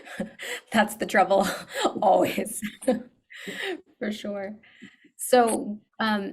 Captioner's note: laughs